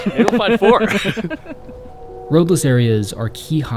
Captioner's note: both laughing